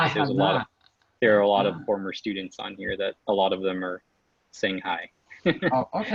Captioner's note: laughs